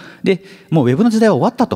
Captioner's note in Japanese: none